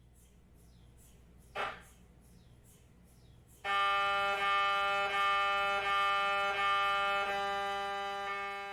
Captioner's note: MRI Noise